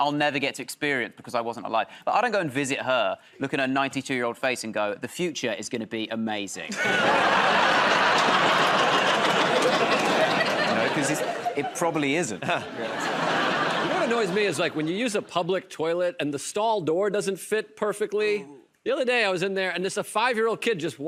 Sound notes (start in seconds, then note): 6.7 laughter and applause; 12.7 laughter